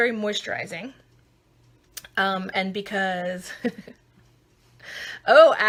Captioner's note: laughing